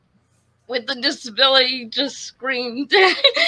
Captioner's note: laughs